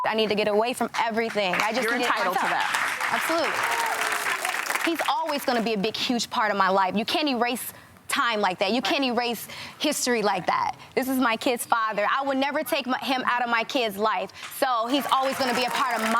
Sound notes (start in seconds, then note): 4.1 audience applauding